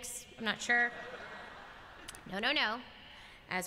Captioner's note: laughter